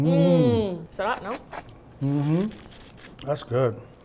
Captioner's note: speaks Tagalog